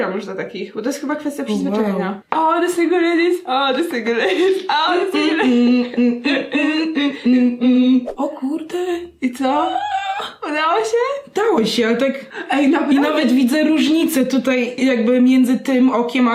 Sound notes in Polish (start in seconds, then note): 8.1 zium